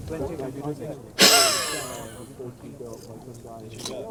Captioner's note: laughing